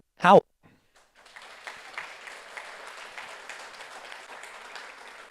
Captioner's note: audience applauds